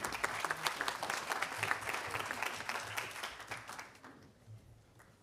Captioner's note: audience applauding